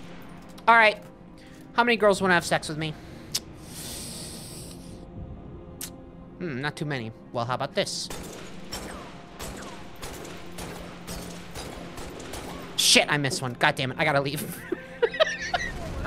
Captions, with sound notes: Alright. How many girls wanna have sex with me. [sharp inhale] Hm, not too many. Well, how ‘bout this? Shit, I missed one. God dammit. I gotta leave. [laughing]